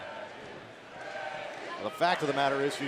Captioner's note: crowd cheering